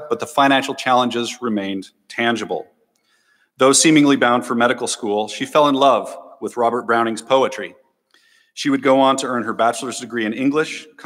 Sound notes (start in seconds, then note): none